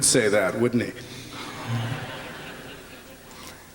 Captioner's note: laughter